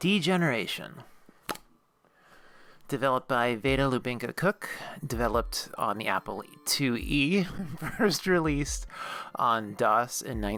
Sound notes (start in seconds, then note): 1.4 pop!